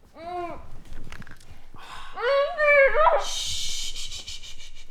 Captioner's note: Jessie screams; Maisie hushing